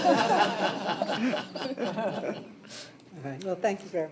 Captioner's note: laughter